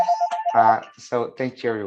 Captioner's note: phone ringing